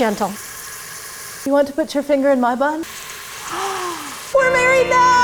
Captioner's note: gasps